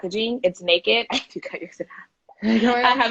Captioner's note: laughing